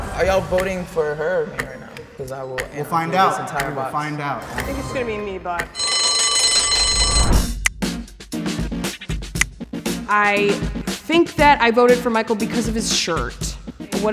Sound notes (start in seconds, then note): 5.7 bell chiming; 7.0 synth music